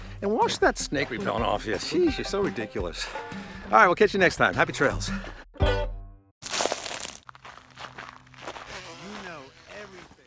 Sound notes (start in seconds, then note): 6.4 gravel crunching